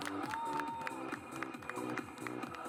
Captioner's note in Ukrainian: аплодисменти